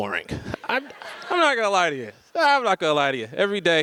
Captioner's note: audience laughs